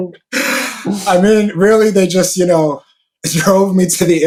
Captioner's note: laughs; deep inhale